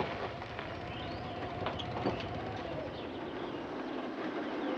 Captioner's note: engine turning off